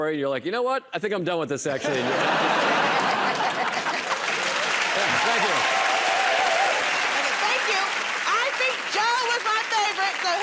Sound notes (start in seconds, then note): 2.6 laughter and applause; 6.0 cheering and applause